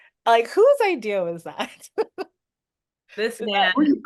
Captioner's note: laughs